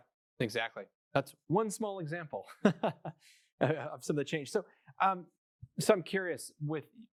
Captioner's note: laughs